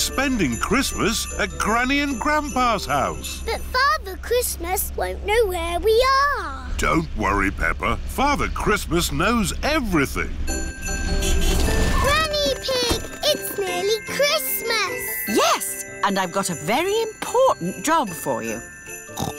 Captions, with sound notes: We're spending Christmas at Granny and Grandpa's house. But Father Christmas won't know where we are! Don't worry, Peppa. Father Christmas knows everything. (HORN HONKS) Granny Pig! It's nearly Christmas! Yes! And I've got a very important job for you.